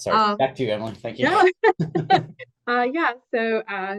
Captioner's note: laughs